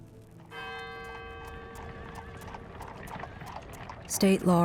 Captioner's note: bell rings, horse hooves clomping